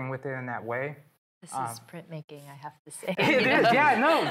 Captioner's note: laughing